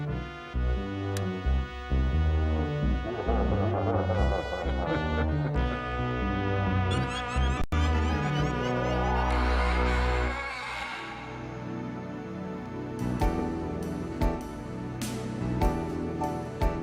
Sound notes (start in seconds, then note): 1.2 light clicking; 2.9 laughing; 3.0 monster laughing; 13.4 relaxed ambient music